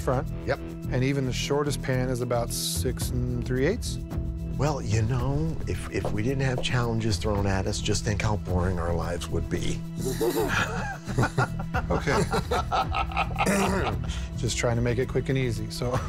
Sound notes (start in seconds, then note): 10.0 laughter; 13.4 clears throat